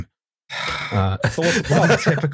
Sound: sighs

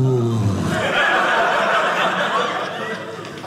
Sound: audience laughing

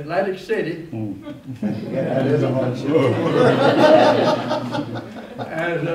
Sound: laughter

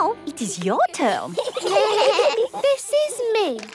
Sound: children giggling

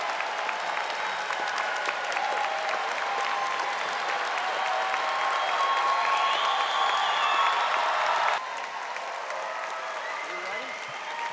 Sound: audience applauding and cheering

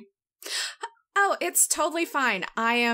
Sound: none

